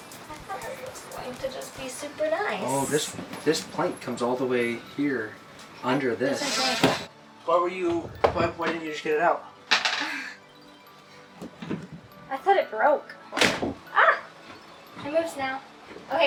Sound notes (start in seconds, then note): 13.6 boat bangs